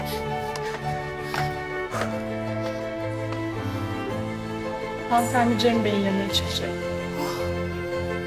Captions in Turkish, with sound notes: (Bahar derin nefes alıyor) Hanımefendi Cem Bey'in yanına çıkacak.